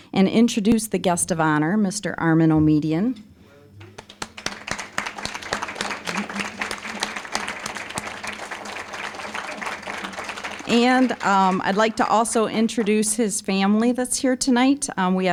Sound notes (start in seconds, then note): 3.8 applause